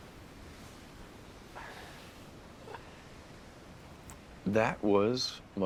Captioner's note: waves continue crashing